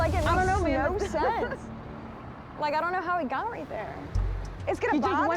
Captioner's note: laughs